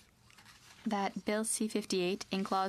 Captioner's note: speaking in french